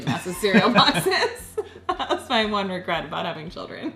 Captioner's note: laughing